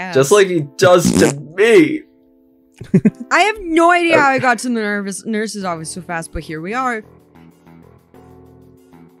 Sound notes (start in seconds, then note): 0.9 toots; 2.8 teehees